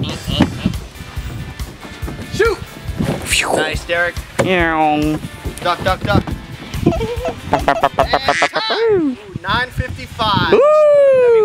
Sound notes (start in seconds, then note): 3.1 woosh